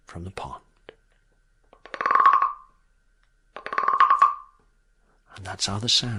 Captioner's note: frog sound effect